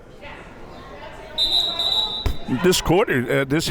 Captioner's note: whistle tweeting